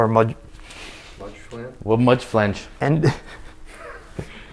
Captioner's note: laughing